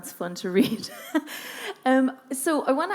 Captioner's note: laughing